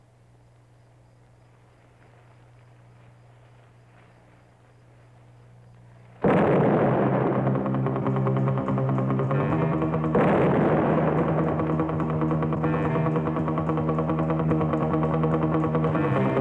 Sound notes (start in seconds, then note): 6.2 explosions booming; 7.4 frenzied music